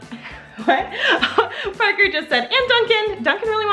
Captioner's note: laughs